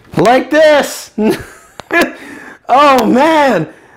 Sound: laughing

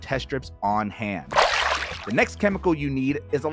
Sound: water splashes

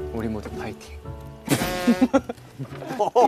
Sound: crack up

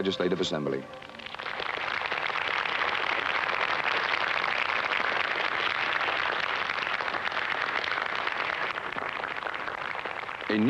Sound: applause

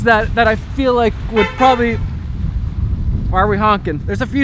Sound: horn honks

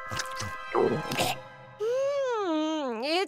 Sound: gags

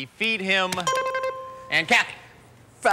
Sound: buzzer rings

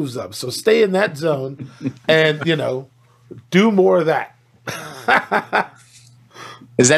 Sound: laughs

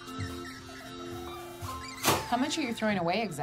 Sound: trash bag being thrown

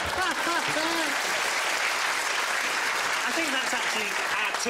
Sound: audience laughs; audience applauds

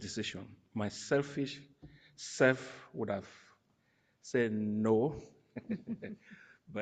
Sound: chuckling

